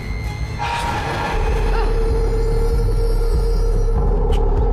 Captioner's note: dramatic orchestral music; monster screeching; tense orchestral music